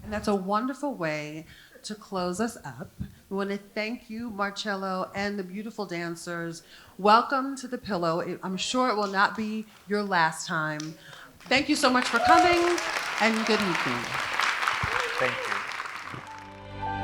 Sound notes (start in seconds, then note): 11.0 audience applauding; 16.2 gentle music